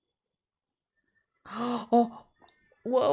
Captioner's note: gasps